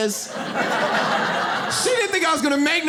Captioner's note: audience laughs